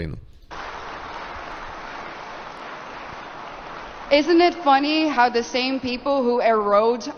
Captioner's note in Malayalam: കരഘോഷം